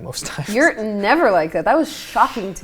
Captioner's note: nervous laughing